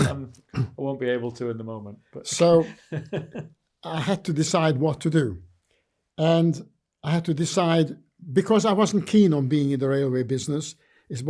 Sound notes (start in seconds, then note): 2.2 laughing